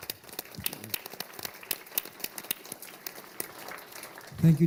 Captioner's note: applause